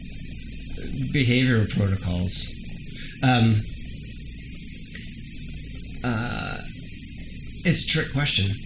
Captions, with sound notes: behavioral protocols. (hums) It's a trick question.